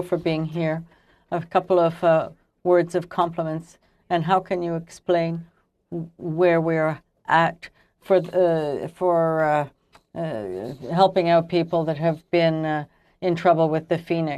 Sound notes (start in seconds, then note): 3.1 speaking French